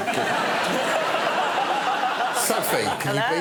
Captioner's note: audience laughing